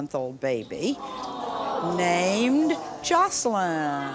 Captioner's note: audience awws